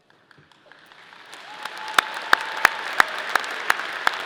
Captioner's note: audience clapping